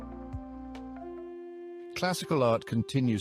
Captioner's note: narrator over music